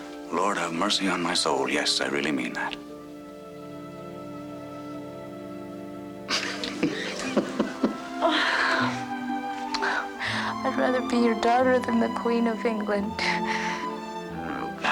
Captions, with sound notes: >>Lord, have mercy on my soul. Yes, I really mean that. [BOTH LAUGHING] >>I'd rather be your daughter than the queen of England.